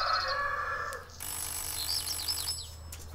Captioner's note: cock crows, ringing